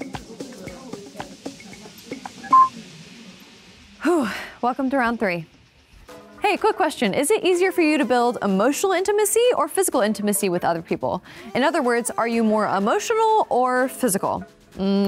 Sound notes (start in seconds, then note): 2.4 timer beeping; 4.0 sighs